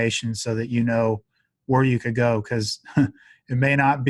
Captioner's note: chuckles